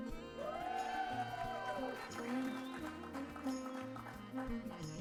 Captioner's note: applause